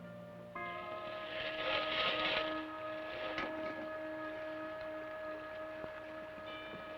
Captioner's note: suspenseful orchestral music; scraping